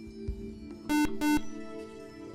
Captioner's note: buzzer